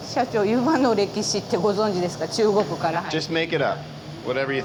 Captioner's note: speaking Japanese